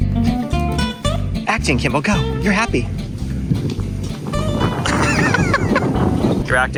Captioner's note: laughing